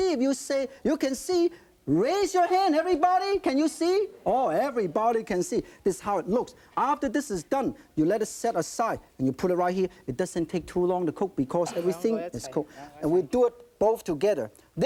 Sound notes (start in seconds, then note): 12.0 speaking in foreign language